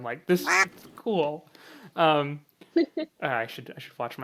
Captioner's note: laughs